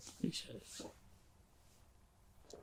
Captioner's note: pauses 6 seconds